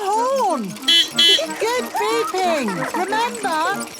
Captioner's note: giggling; beeping